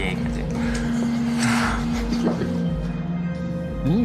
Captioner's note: hahahahahahaha